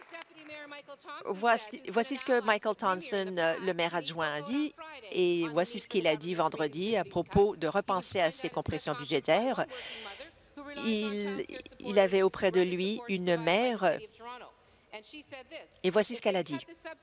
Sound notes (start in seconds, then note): 0.0 applause